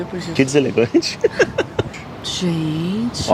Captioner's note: laughs